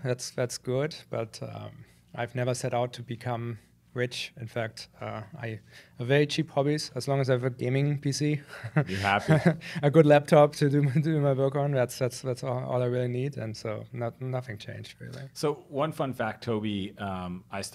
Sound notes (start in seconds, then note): 8.5 chuckles